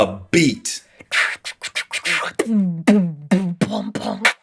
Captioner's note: beatboxing